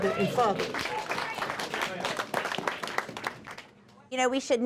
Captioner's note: audience clapping